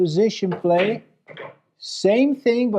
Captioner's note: balls clacking